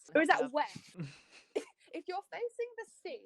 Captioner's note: laughter